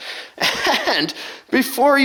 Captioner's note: laughing